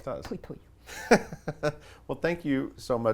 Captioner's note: laughs